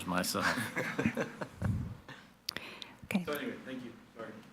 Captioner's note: people laugh